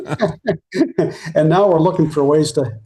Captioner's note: both Laughing